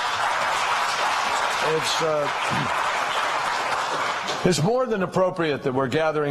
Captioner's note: applause